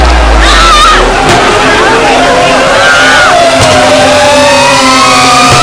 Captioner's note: screams